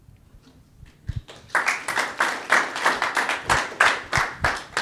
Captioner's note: audience clapping